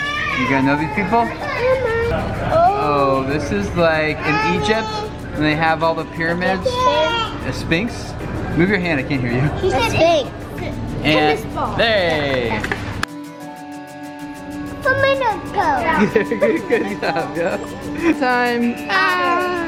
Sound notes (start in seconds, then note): 15.8 laughs